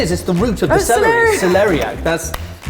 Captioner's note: laughing